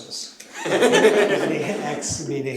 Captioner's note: laughter